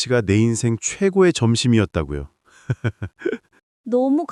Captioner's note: laughs